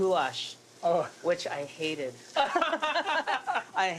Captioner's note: laughter